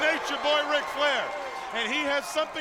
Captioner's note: crowd cheering